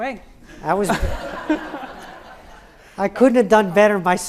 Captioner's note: audience laughs